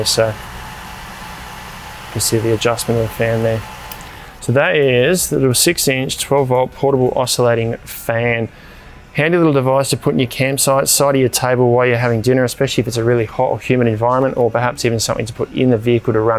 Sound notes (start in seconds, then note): 4.0 fan stops